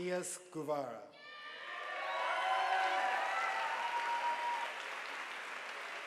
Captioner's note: audience applauding